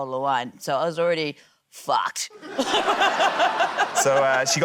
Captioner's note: laughter